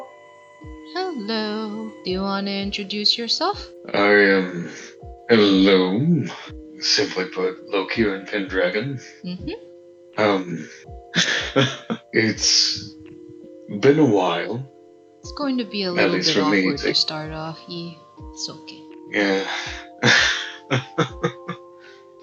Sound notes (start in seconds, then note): 11.1 nervous chuckles; 19.2 more nervous laughter